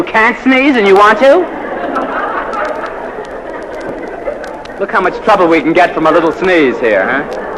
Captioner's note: laugh